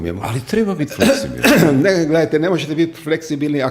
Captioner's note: coughs